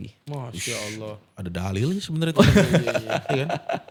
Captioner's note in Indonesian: tertawa